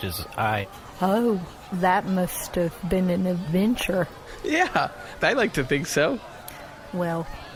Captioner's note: laughing